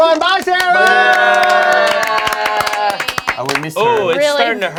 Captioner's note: all cheering